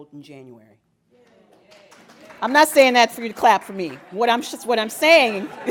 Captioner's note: applause